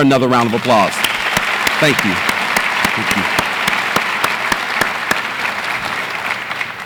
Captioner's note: audience applauds